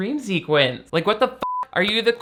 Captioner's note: beep